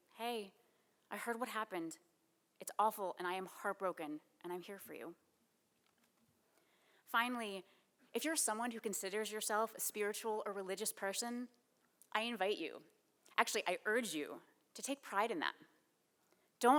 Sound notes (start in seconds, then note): none